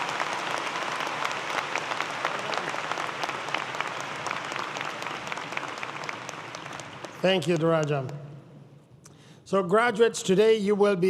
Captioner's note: applause